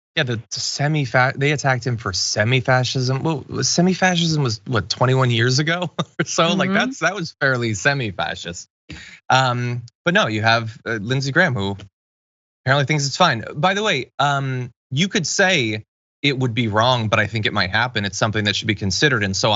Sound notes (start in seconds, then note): 5.7 laugh